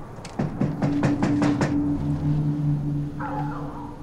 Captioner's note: knocking